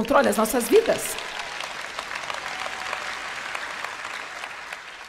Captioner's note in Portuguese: audiência aplaude